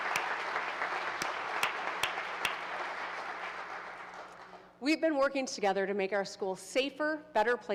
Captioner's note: applause